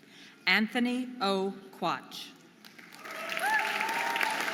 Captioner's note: audience applauding and cheering